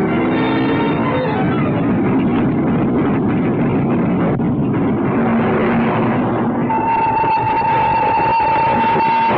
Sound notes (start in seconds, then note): 1.3 train rumbling; 6.6 train horn blares